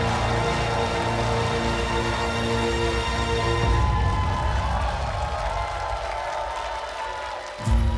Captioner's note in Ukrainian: оплески